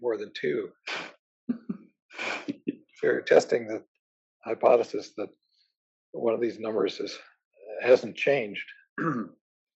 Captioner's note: laugh